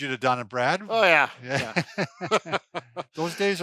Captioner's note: both laughing